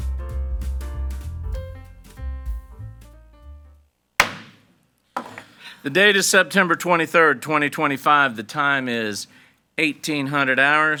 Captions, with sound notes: (gavel bangs) - The date is September 23rd, 2025, the time is 18:00 hours.